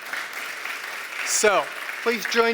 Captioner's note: applause